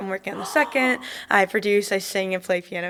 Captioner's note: gasps